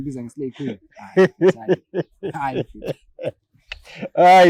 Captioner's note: giggles